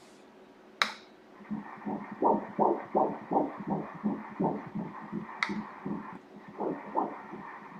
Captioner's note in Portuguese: batimentos cardíacos